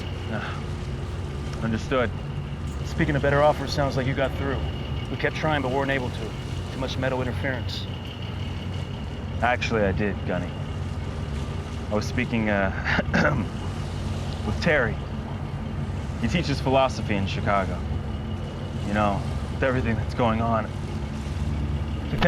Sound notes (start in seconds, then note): 12.8 clears Throat